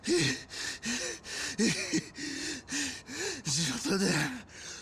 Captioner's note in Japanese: 笑い; 息をのむ音